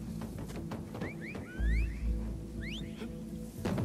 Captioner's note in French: Sifflements